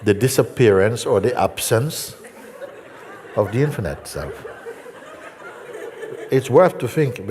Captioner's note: Lachen